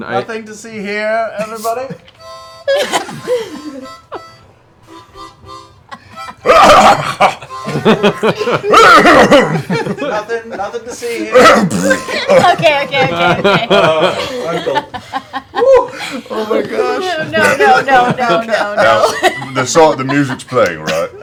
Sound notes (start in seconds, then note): 11.3 coughs, then farts; 14.2 laughter